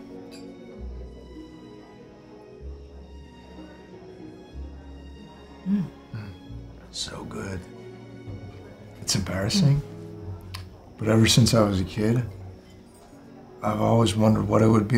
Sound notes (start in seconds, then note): 0.3 down-tempo music; 3.6 chatter